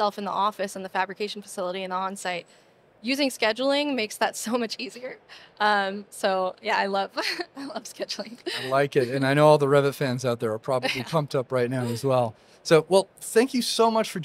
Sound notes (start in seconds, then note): 8.3 laughs